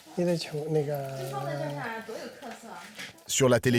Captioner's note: both speaking foreign language